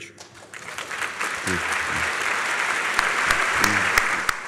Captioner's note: applause